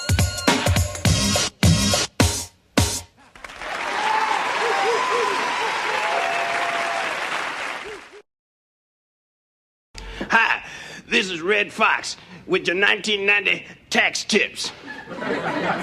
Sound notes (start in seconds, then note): 3.4 Aplausos, Gritos